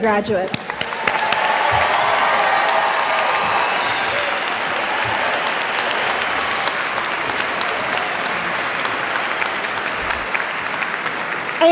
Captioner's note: applause